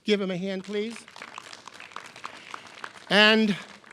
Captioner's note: clapping